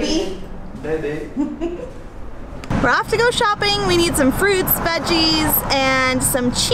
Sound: laughs

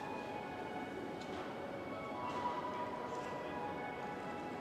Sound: people chattering

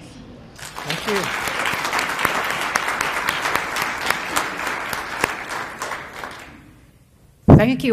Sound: applause

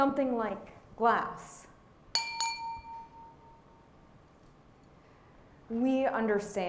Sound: glass clinking

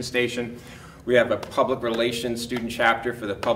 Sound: smacking notes

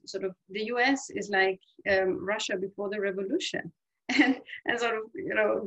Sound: laughs

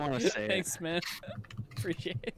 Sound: laughter; laughing

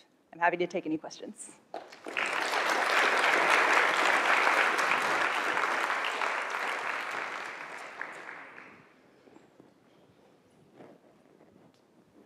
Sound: applause

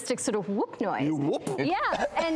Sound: coughing

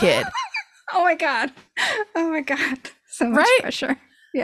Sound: laughs

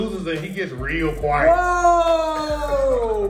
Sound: laugh

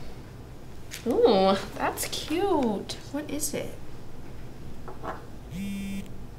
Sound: phone buzzes

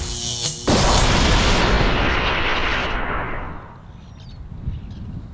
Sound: volcano whooshing; volcano exploding

